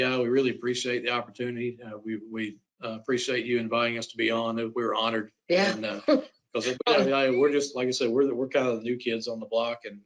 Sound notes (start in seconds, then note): 6.6 laughs